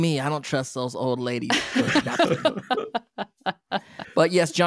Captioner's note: laughing